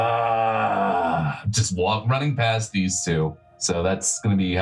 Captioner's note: growling